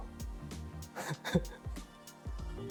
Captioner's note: chuckles